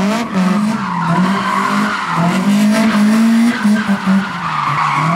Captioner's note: car sounds